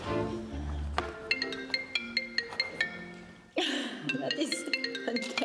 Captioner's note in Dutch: mobiele telefoon gaat over